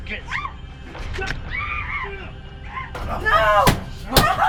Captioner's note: Ashley screams; Larry yells